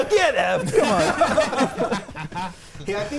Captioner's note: players laughing